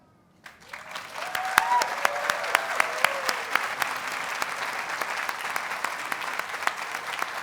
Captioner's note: audience cheers and applauds